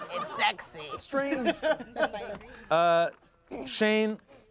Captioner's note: everyone laughs